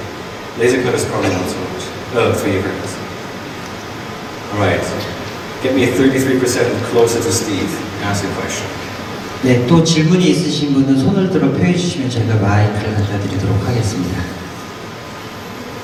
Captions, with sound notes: Laser cutters, probably not so much than 3D printers. Alright, get me 33 percent closer to Steve. - [Voiceover] (speaks in foreign language).